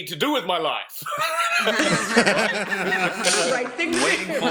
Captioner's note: laughter